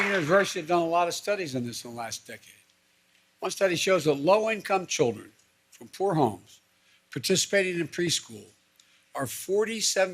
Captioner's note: applause